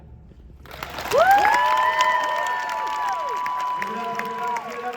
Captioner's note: applause and cheering